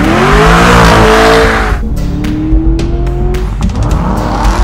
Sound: engine revving

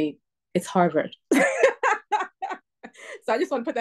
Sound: laughter

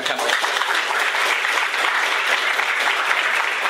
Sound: applause

